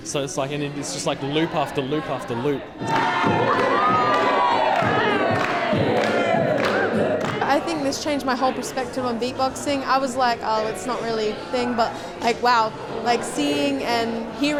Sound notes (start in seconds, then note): 2.7 cheering, beatboxing